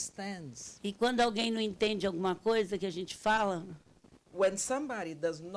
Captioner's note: speaking Portuguese